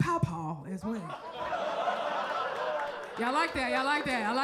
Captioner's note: crowd laughs